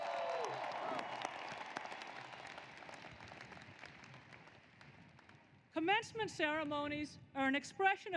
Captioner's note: applause